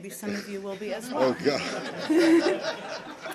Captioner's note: laughter